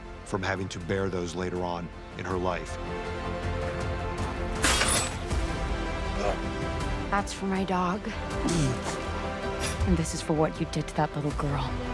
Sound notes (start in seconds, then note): 8.4 moans